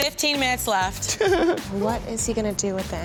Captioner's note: laughs